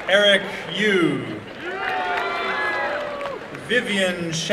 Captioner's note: applause and cheering